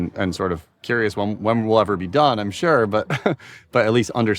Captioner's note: laughs